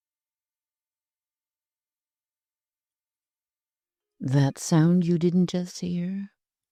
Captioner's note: silence